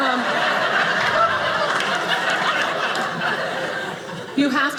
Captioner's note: audience laughing